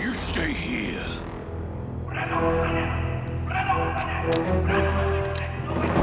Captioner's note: soldiers speaking Scarran